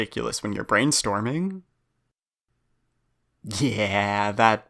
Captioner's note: beat